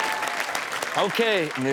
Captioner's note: audience clapping